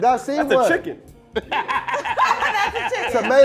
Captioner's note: laughing